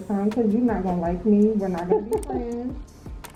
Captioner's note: laughs